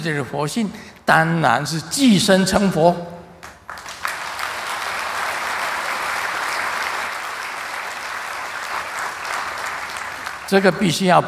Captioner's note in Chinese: 眾鼓掌